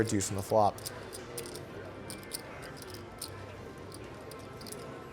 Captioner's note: soft clacking